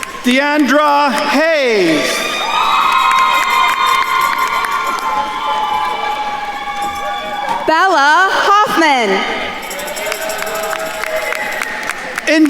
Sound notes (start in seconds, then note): 0.0 attendees cheering and applauding; 2.6 attendees cheering and applauding; 10.1 attendees cheering and applauding